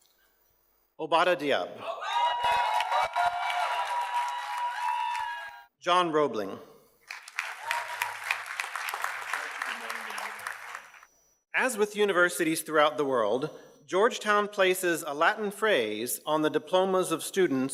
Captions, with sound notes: Obadah Diab. (audience cheers and applauds) John Robling. (audience cheers and applauds) As with universities throughout the world Georgetown places a Latin phrase on the diplomas of students